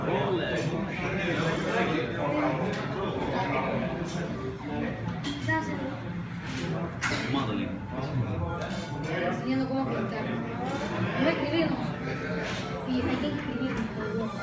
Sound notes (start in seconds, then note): 7.0 background chit chat